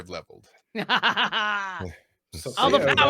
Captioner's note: laughing